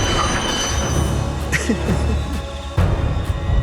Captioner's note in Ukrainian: сміється